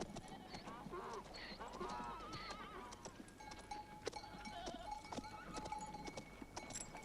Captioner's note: donkey braying; goats bleating